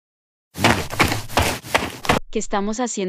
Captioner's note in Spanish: FX - Footsteps - On Multiple Dirt - Run